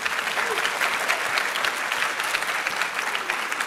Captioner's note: audience clapping